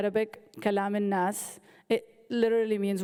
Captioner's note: speaking in foreign language